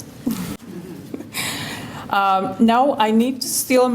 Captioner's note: laughter